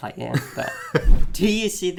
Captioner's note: laughs